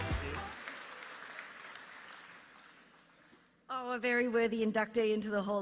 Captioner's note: applause